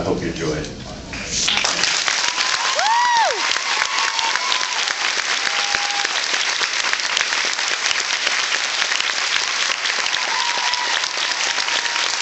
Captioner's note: applauds